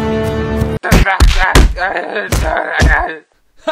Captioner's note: Jonathan crying in pain